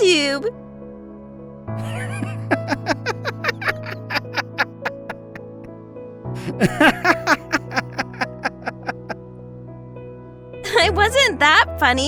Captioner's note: laughing